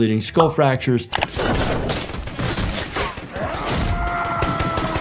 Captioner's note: gunshots fire; man yelling